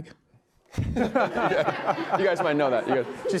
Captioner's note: laughter